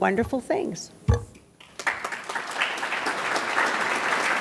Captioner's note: audience claps